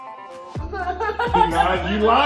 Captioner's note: laughing